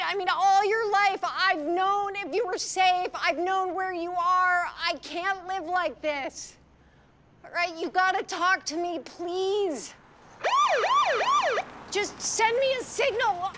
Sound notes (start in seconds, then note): 10.4 siren wails